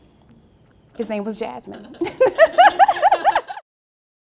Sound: laughs

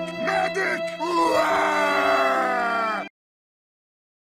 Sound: more Crying

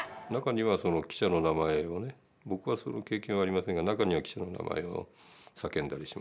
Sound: people shouting in foreign language; speaking in foreign language

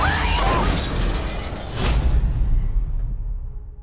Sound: passenger screams; suspenseful music; glass shatters

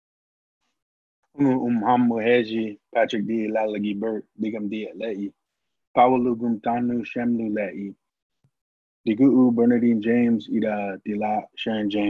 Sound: speaking Native language

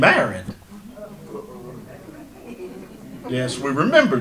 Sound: audience laughter

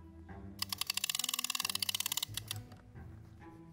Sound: lever cranking; playful music

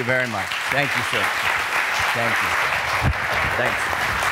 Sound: applause

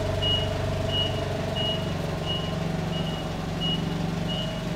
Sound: forklift beeping

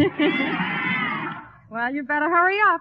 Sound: chuckles; audience Clamors

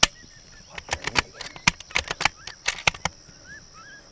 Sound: gun reloading

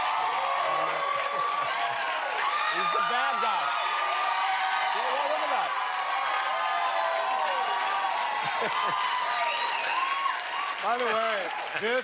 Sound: cheers and applause

